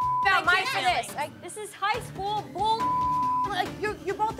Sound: beep; beep

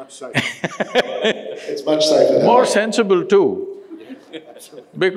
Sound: laughs

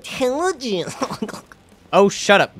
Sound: Griggs Chuckling

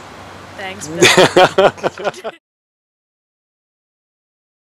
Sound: laughing in the background because said she would never speak on camera

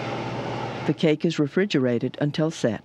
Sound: voiceover

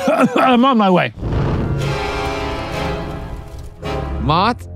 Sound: intense music; smoke whooshing

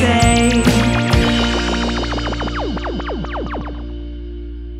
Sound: laser sounds

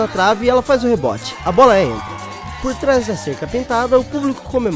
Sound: crowd cheering

